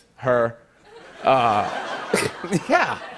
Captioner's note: laughter